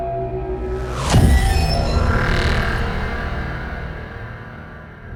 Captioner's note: ominous ambient music; text booming